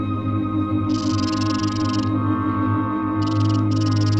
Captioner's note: snake rattling